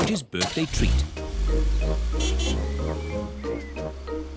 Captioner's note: horn honks